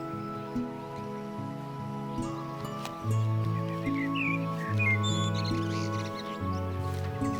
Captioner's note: birds chirping; soft music